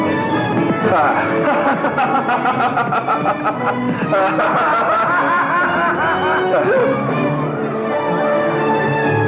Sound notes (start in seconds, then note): 0.8 laughing; 0.9 laughing Wildly, Hooting; 6.5 chattering